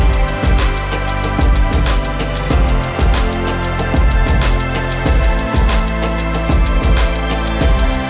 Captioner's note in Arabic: تصفيق